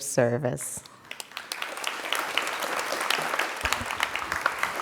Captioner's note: crowd applauding